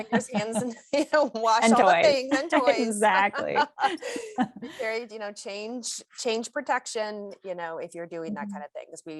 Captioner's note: laughter; laughs